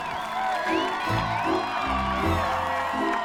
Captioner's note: cheers